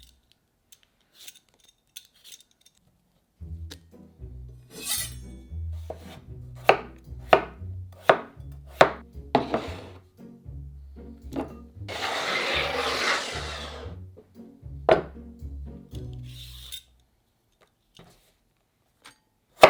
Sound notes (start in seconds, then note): 5.8 knife cutting